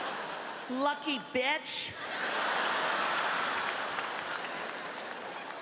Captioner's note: audience laughing; audience laughing